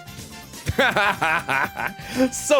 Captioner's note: laughs